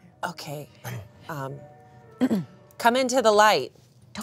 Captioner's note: clears throat